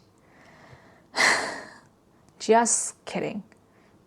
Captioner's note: sighs